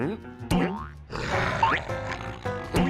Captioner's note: snarling